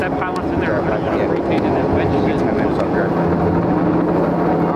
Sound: crew murmurs

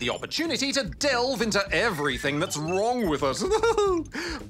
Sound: chuckles

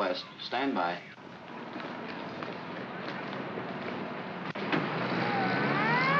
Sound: feet scrambling; sirens wailing & vehicles accelerating

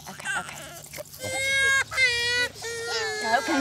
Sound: crying continues

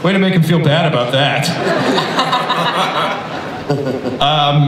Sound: everybody laughs

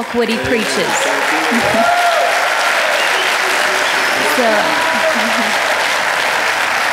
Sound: audience applauding and cheering

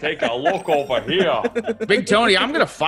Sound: laugh

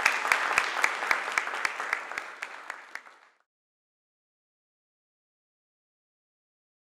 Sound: applause

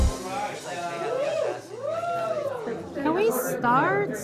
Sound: cheering

